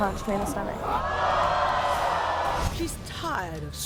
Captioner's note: audience yelling